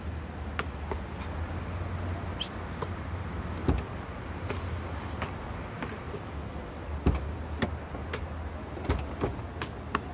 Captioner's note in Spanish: Sonido al rebotar la pelota